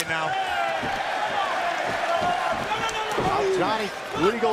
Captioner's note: crowd cheering